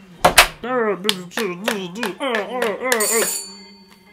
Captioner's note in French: porte qui claque; bataille piètrement bruitée à la bouche; sonnette